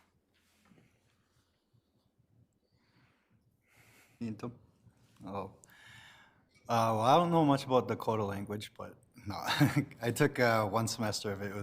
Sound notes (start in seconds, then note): 4.4 speaks foreign language